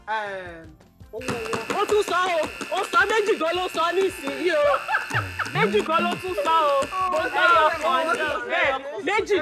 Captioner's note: buzzer pressed